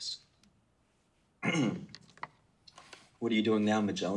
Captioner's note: clears throat